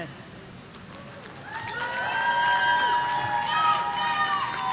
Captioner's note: audience cheering